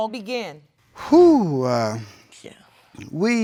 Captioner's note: exhales